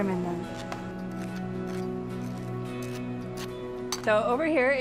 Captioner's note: fork scrapes